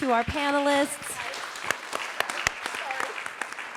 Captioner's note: audience applauding